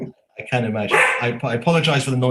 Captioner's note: dog barking